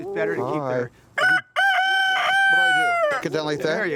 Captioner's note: rooster crows